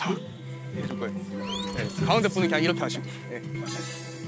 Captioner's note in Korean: 촤라락